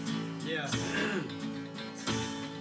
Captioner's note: clears throat